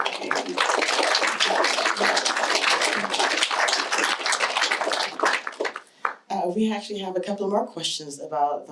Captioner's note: applause